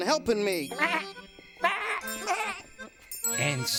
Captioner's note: goat bleating